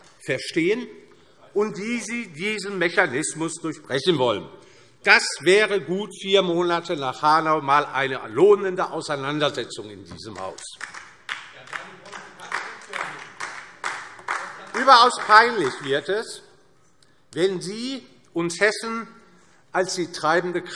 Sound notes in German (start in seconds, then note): 10.3 Beifall DIE LINKE